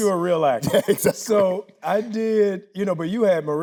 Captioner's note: laughing